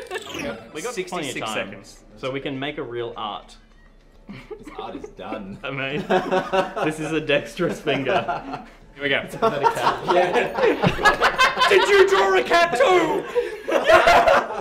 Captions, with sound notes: We got 66 seconds, so we can make a real art! This art is done! This is a dexterous Finger! Here we go! [Laugher overlaps speech] Did you draw a cat, too!?